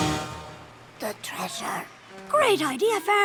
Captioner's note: whispering